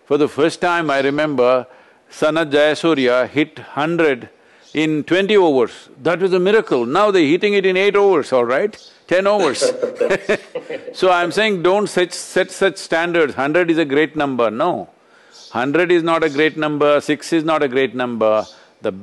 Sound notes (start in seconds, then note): 9.4 laughter